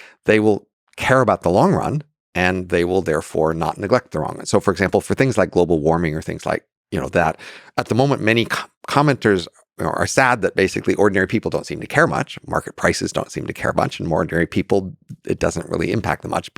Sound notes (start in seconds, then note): none